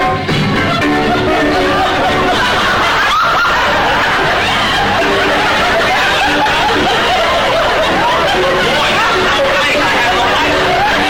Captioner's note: lively music; audience laughter